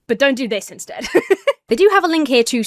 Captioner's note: laughs